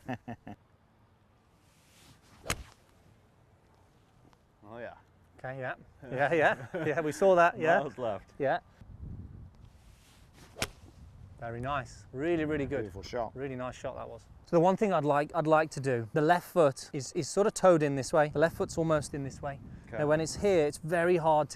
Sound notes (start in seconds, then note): 0.0 camera Person chuckles lightly; 1.6 golf swing swoosh; 9.6 golf swing swoosh